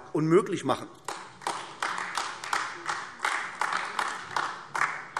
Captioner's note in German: Beifall AfD